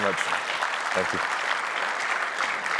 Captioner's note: applause